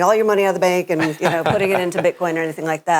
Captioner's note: laughs